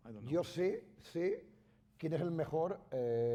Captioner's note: speaking spanish